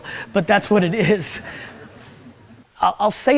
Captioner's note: audience laughs